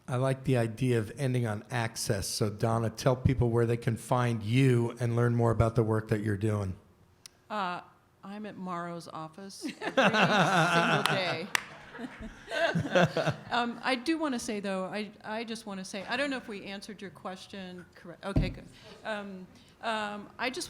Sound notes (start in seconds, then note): 9.6 laughter